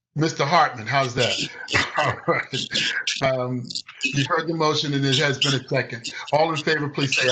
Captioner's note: laughter